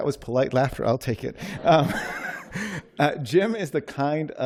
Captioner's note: laughter